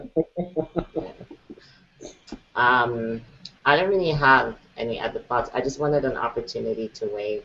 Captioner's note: laughter